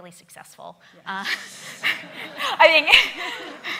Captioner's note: laughing